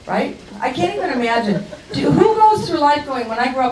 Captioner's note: crowd laughs